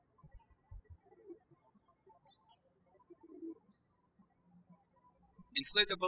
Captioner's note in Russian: птички щебечут